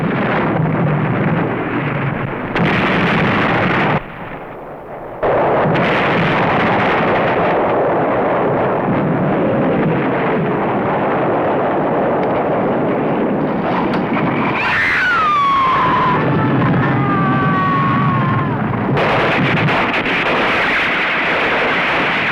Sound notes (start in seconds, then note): 14.4 screams; 18.7 gunfire